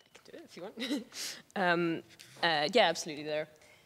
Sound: chuckling

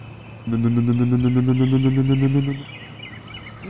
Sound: engine sound

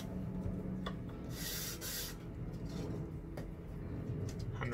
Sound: scraping

